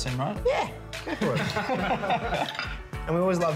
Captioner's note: laughter